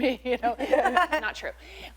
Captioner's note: laughter